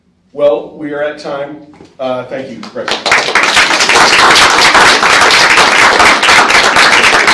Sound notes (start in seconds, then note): 2.6 applause